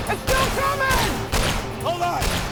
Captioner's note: gunshot